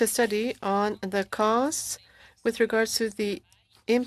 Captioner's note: speaking French